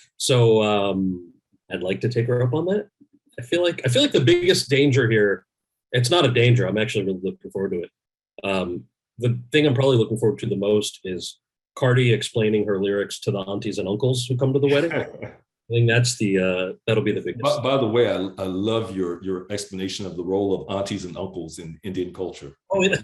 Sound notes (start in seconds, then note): 14.6 laughs